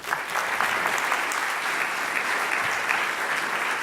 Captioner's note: applause